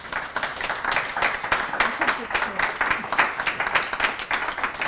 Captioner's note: applause